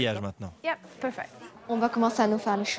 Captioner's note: in English